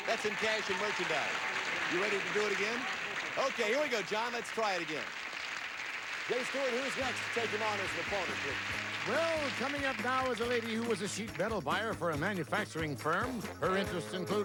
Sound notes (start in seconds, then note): 5.0 audience applauding